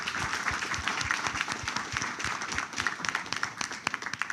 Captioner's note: applause